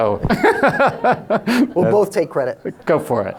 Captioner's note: laughing